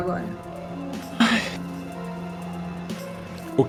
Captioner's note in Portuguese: suspira